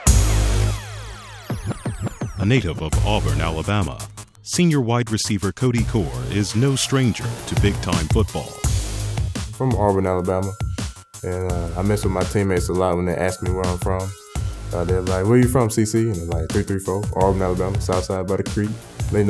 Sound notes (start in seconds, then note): 0.0 electronic music; 2.7 voiceover